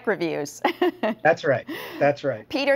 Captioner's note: laughing